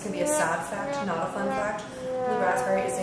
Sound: comic whomp horn

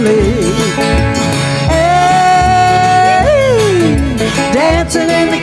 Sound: yelling

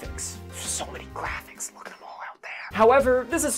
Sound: whispering

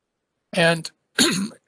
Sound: cough

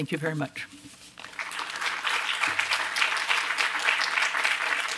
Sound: applause

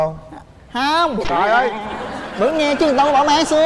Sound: laughing

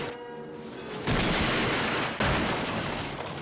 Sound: smashing

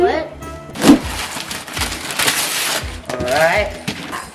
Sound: paper rustling

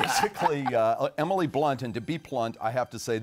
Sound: laughing

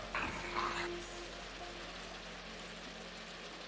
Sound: snarling

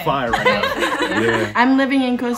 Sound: participants laugh

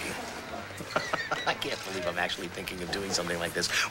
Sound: laughs

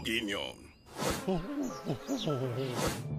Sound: bull whimpering

